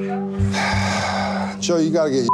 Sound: sighs

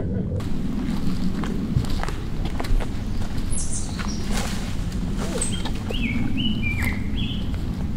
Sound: bird sounds

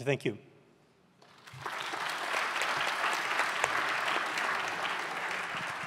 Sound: audience applauding

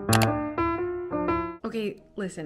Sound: key clicks

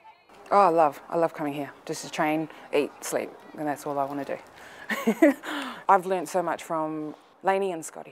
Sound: laughs

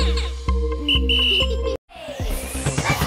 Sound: whistle blowing

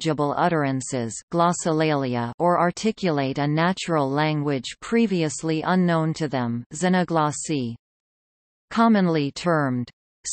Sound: glossolalia

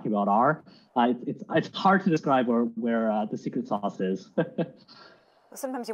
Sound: chuckling

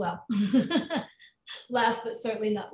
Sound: laughs

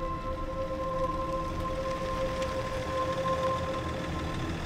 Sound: car engine rumbling

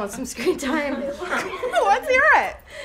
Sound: girls laughing

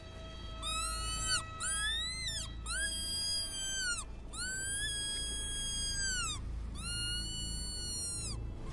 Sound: rabbit call

